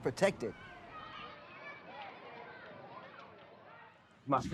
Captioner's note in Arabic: أطفال يتحدثون